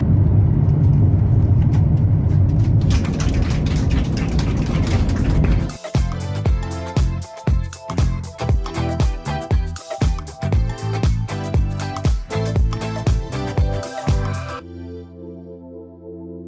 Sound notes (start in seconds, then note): 2.9 passengers applauding; 5.8 upbeat music starts